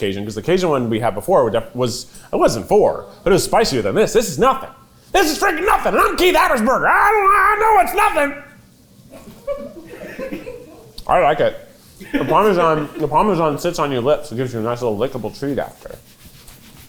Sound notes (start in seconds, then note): 9.2 cast laughing